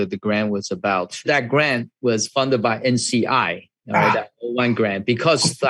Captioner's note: laughs